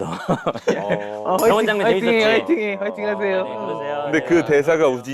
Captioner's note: crying